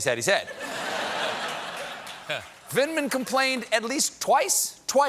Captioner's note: laughter